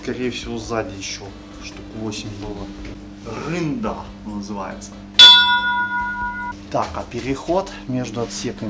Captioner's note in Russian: колокол